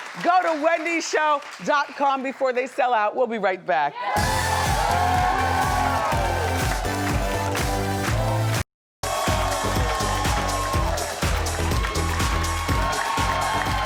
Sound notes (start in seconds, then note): 4.2 audience cheers; 4.2 upbeat music; 9.0 audience cheers; 9.0 upbeat music